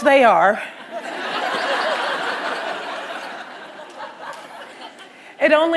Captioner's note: laughter